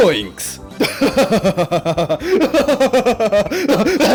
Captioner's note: cackling maniacally